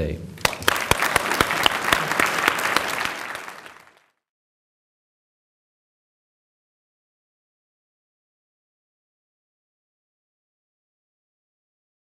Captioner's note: applause